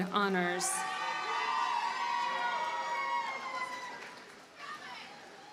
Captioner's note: audience cheers and applauds